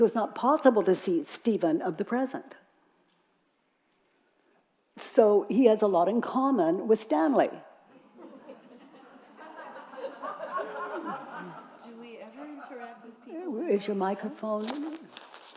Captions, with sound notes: So it's not possible to see Stephen of the present. So, he has a lot in common with Stanley! (audience laughing) - Do we ever interact-- - Is your microphone?